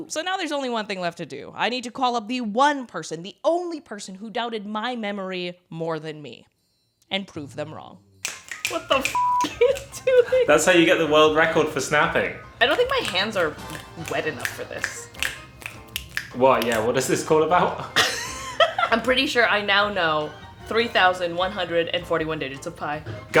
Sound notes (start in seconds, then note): 8.2 snapping; 9.1 beep; 15.2 both snapping; 17.8 laughs